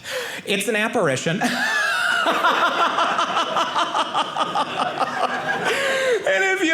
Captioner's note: audience laughing